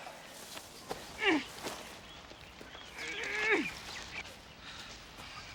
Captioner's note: ladies groaning